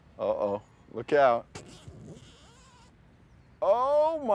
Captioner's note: zipper buzzing